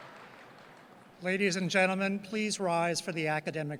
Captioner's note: voiceover